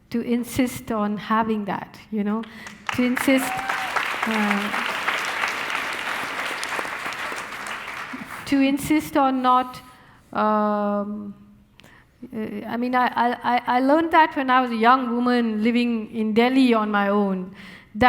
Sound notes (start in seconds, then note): 2.5 audience applauding